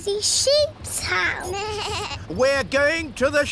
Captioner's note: suzy bleats